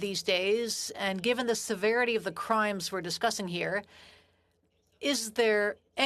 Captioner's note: speaking in French